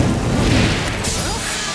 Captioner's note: snap